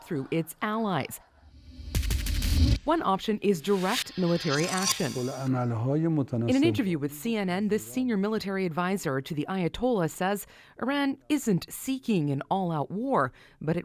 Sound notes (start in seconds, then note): 6.9 speaking foreign language